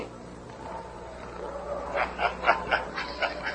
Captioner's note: chuckles